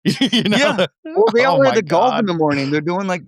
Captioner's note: both laughing